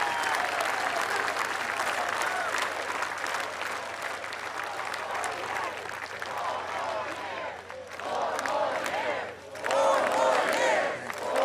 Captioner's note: applause